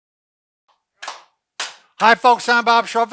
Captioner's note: clapping